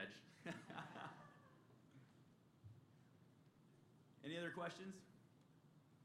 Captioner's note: laughter